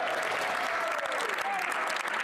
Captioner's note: applause; speaking French